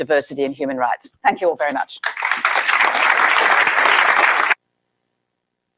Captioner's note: applause